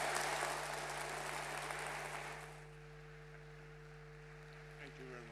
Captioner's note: audience applauding